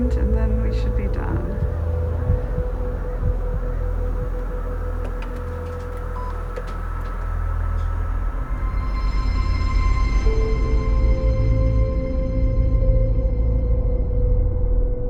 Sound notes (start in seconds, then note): 6.2 machine beeps